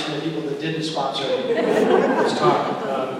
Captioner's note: laughter